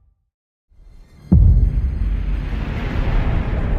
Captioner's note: atmospheric rumbling